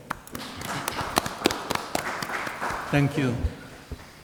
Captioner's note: audience applauds